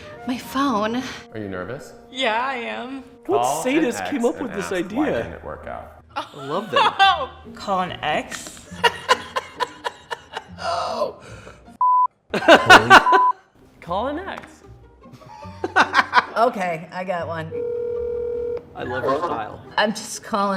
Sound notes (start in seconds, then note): 6.2 laughing; 8.7 laughing; 11.8 beep; 12.4 laughing; 15.4 laughing; 17.5 phone ringing